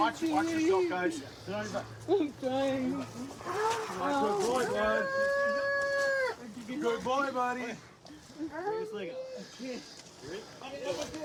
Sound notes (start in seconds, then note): 4.1 wails